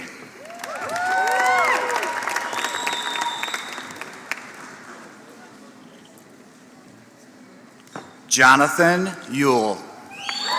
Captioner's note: applause; applause